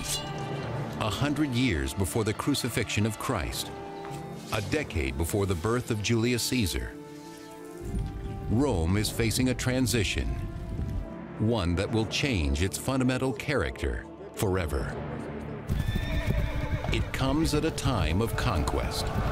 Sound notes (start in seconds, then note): 15.7 horse neighing